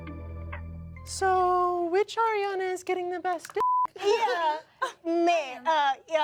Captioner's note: upbeat music; beep